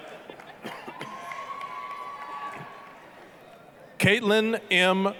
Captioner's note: applause, cheering